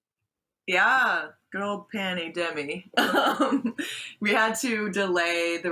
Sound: laughs

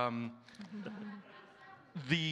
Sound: audience giggles

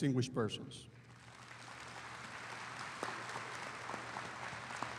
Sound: audience applauding

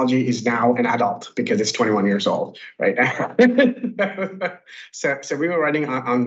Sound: chuckles

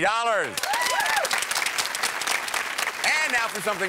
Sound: applause

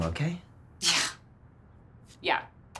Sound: scoffs

